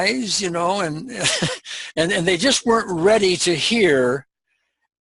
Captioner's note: chuckle